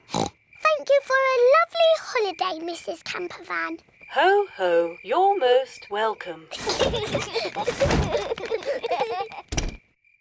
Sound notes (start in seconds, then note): 6.5 children laugh